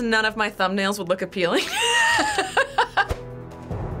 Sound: laughs

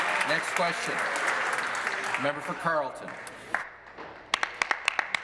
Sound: applause

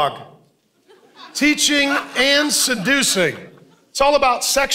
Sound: congregation laughing

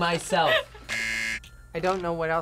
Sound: buzzer rings

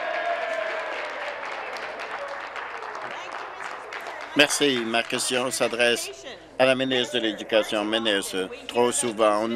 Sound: applause

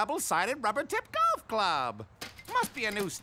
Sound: glass shattering

